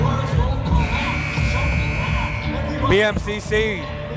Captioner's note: buzzer blaring